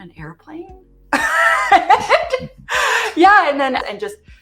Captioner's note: laughs